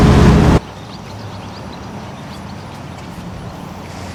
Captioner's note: birds chirping